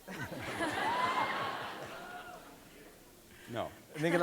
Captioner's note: audience cheering